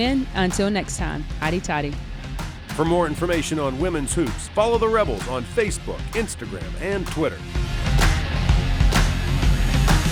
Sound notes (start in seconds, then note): 2.6 voiceover; 7.9 upbeat music